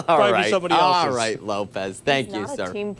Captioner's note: laughter